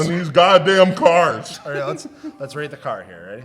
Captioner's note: laughs